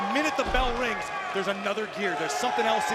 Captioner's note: crowd cheers